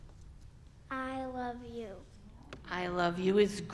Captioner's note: young voice